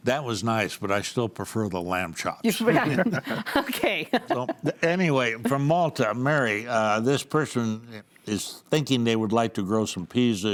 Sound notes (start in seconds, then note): 2.5 laughs; 2.6 panels laughing